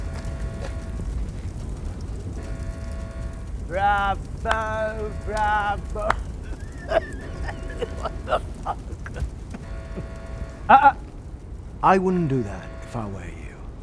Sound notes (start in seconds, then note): 0.1 alarm blaring; 2.0 fire raging; 6.4 Mr. Boll coughing